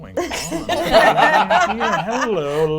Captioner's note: all laugh